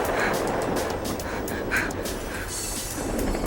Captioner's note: Donna huffing